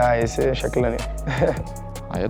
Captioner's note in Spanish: Risas